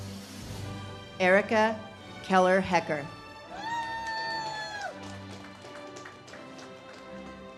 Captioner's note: audience cheers and claps